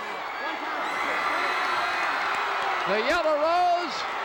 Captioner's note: audience cheering